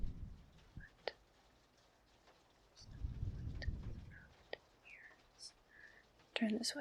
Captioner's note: whispers